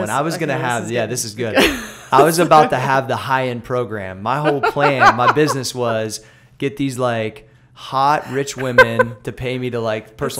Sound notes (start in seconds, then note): 4.4 laughter